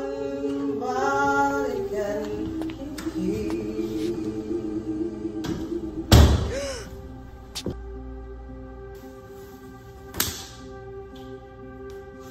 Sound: both ladies singing together; footsteps. Door shuts. Gasp!

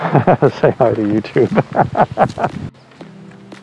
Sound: laughing

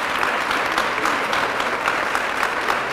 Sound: applause

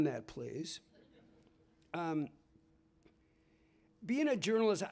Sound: laughter

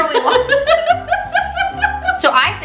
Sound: laughs

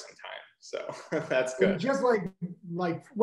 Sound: giggles

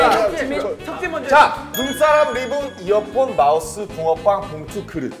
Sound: enunciates

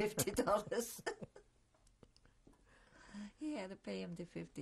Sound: laughter

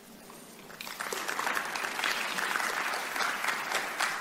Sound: audience applause

